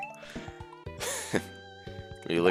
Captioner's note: laughs